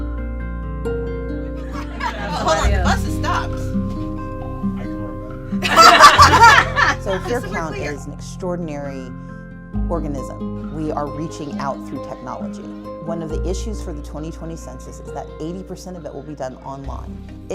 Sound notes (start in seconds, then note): 1.6 laughing